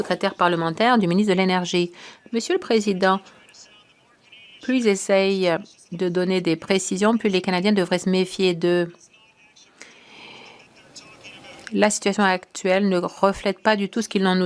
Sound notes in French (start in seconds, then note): 4.2 voix de l'interprète